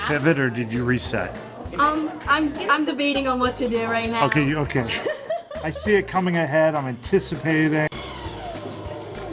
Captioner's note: laughs